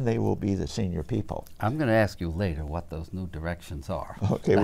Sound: laughs

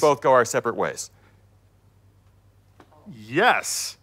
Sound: silence

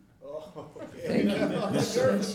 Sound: laughing

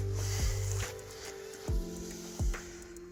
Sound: unzipping sound

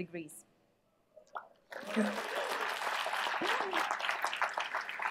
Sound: applause

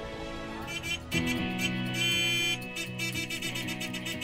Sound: car honking

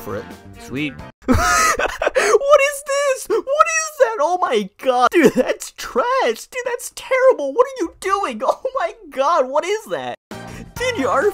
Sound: laughter

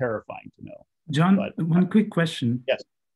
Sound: calm Voice

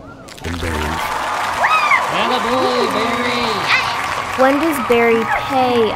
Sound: applause and cheering

